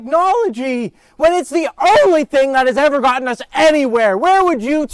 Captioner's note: raising voice; shouting